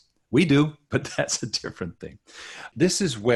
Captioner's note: chuckling